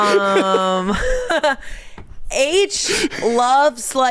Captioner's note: everyone laughs